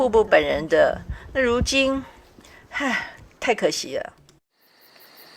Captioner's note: sigh